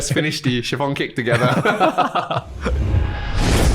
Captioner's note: both laughing